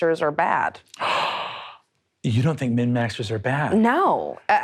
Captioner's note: gasps